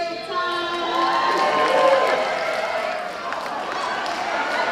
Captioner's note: cheers and applause